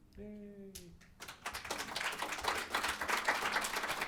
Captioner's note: applause